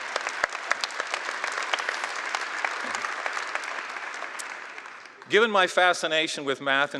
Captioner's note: applause